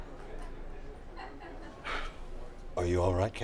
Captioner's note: sighs